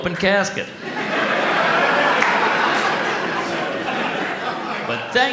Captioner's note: audience laughs